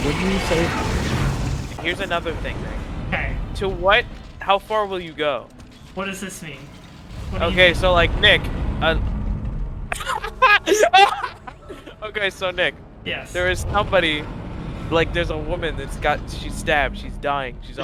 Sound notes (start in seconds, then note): 9.9 laughing